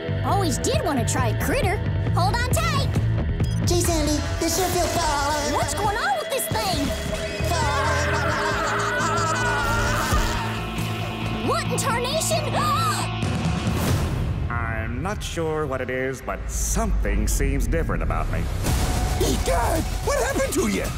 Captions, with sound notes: Always did want to try a critter. Hold on tight. Gee, Sandy, this sure feels... What's going on with this thing? What in tarnation? [gasping] I'm not sure what it is, but something seems different about me. What happened to you?